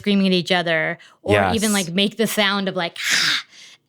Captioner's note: sharply exhales